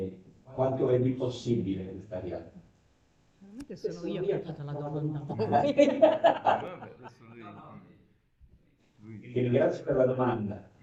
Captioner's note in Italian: risate